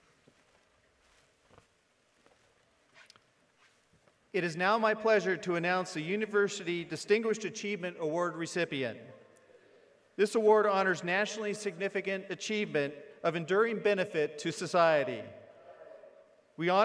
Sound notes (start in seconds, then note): none